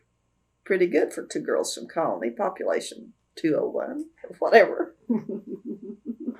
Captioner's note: laughs